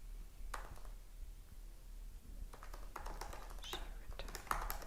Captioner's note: keyboard clacks